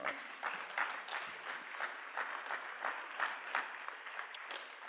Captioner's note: applause